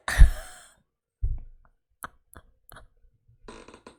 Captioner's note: laughs